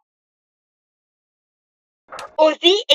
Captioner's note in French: Quel silence assourdissant